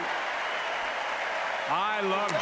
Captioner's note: applause